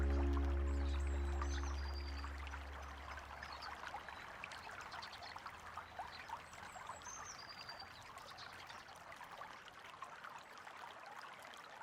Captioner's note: water bubbling